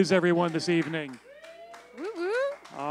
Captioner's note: cheering; applause